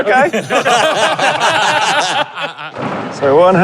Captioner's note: group laughing